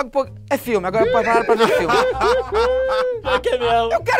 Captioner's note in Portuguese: risadas